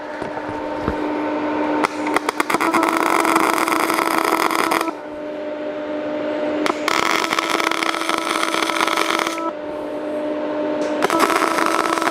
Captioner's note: welding